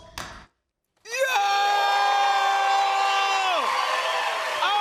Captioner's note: cheers and applause